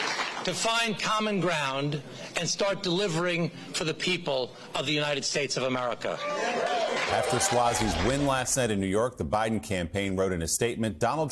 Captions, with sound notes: AND START RUNNING THE COUNTRY. [ CHEERS AND APPLAUSE ]. IT'S TIME TO FIND COMMON GROUND AND START DELIVERING FOR THE